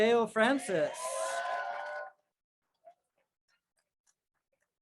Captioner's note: crowd cheers